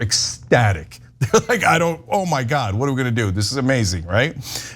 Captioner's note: laugh